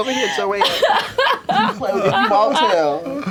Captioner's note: laughter